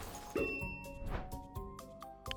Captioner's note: bell dings; transition whooshes